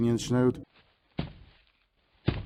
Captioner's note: thomp